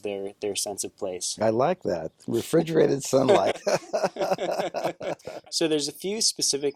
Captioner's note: laughing